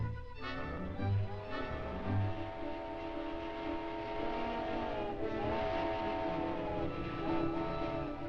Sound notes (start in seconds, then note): 0.3 train horn blaring; 1.5 train chugging